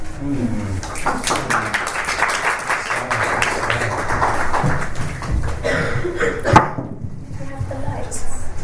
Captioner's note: panellists and audience applaud